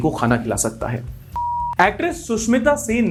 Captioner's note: beep